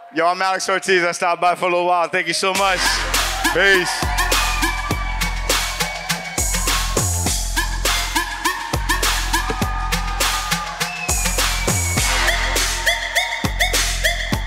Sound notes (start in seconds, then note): 3.4 vigorous music; 4.3 audience cheers